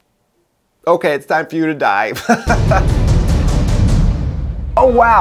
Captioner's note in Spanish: Risas